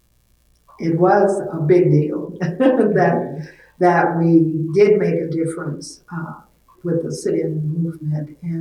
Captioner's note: laughs